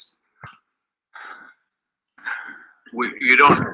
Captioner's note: laughing